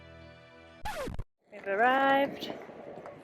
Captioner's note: record scratch